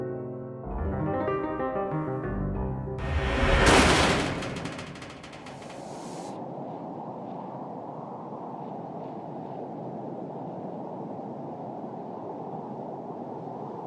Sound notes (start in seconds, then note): 3.0 door scrapes shut; 5.8 wind blows